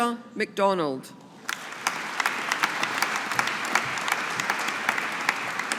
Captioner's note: audience applauding